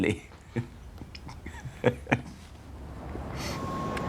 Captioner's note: Смех